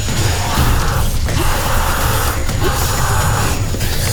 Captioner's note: hissing & snarling; screaming